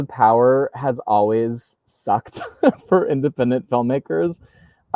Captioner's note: laughs